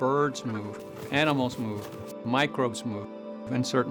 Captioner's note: birds chirping; hooves galloping